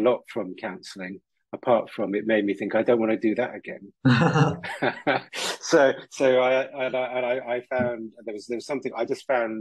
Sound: laughs

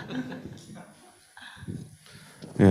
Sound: laughter

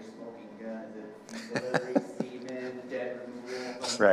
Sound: chuckling

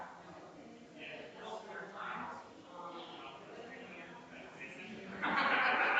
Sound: people chattering distantly continues

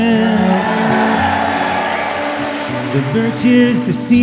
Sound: audience cheering and applauding

